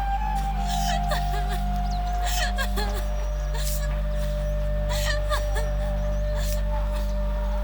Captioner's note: laughter